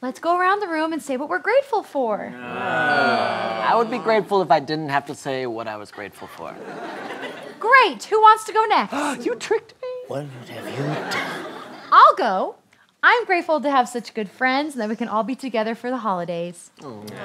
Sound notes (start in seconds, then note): 2.3 groaning; 8.9 gasp